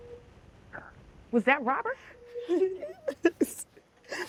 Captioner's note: sobbing